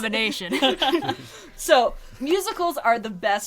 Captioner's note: laughs